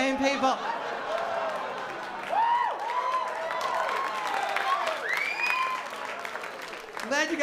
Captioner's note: laughter and applause